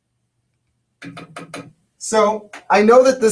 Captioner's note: taps spoon